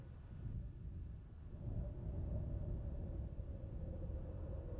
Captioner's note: wind whistling